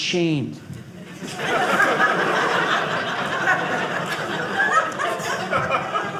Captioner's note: audience laughing